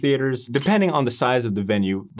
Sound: camera shuttering

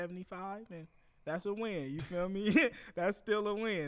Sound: laughs

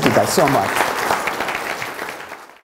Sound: applause

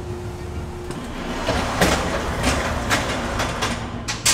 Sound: tray sliding

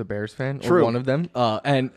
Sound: laughs

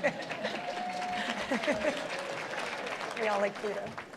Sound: applause

